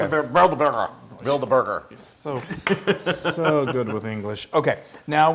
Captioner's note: laugh